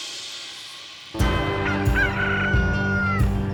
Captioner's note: rooster crows